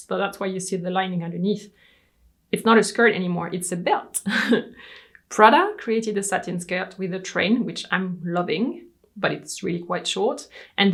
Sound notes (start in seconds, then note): 4.2 laughs